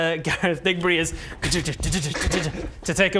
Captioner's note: clip clop clip clop